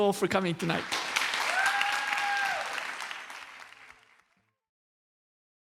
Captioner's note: applause